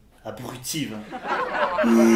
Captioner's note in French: rires